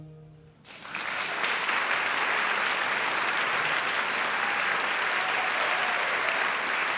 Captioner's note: audience applauding; audience cheering